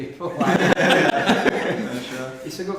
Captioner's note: men laughing